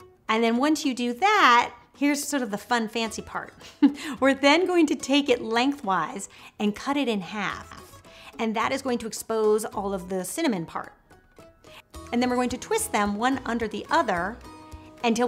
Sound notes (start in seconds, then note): 3.6 chuckling